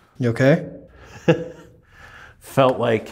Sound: chuckles

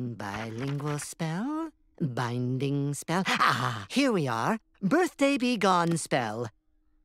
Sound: none

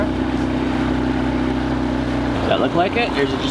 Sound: boat revving

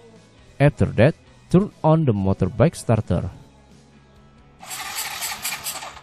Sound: turn on the motorbike starter

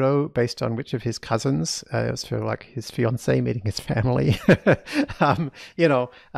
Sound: laughs

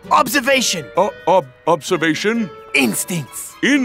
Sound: stutters

